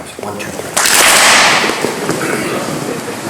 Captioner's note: clap